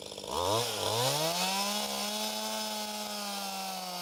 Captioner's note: chainsaw roaring